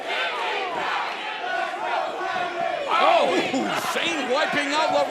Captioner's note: fans chanting